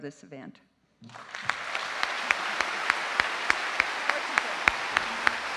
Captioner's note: audience applauding